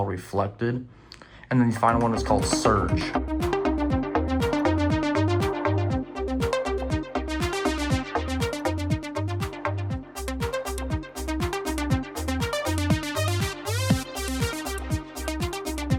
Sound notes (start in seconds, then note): 3.4 "Reflection - Surge" Ringtone Plays